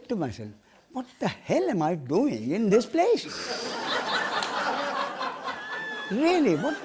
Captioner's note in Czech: smích